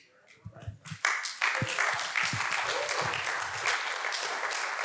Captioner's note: audience applauds